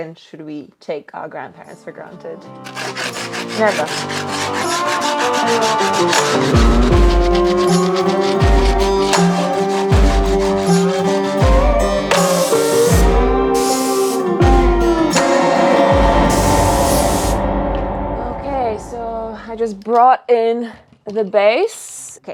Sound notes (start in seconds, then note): 4.2 tool scraping; 7.0 upbeat instrumental music; 13.6 air spraying